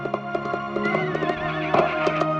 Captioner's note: horse neighing